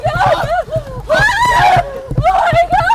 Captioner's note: gritando